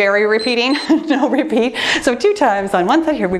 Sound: timer beeps; chuckling

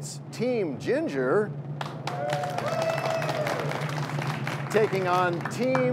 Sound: cheers and applause

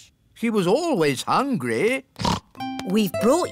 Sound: snorts

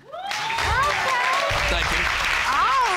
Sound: audience cheering

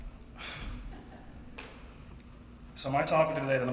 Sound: laugh

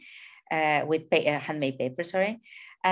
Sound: speaking in a foreign language

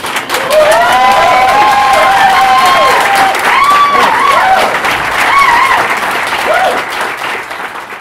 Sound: applause

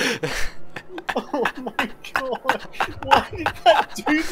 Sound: cries some more

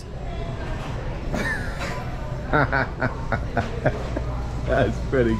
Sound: laughing

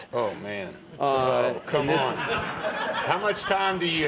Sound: laughter

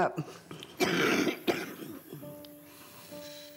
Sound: coughing

